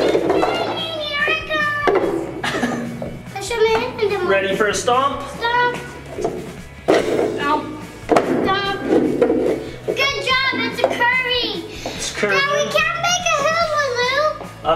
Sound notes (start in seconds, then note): 0.1 child yelling; 9.5 tools moving